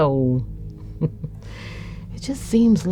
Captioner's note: giggling